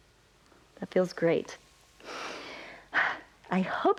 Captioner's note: inhales and exhales